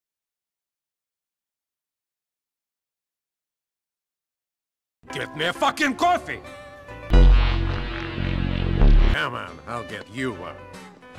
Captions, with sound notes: Vlad -- Get me a fuckin' coffee! [ droning ] Come on, I'll get you one.